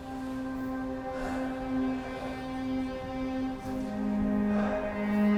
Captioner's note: Adrian panting